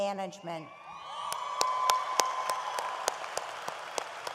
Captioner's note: audience applauds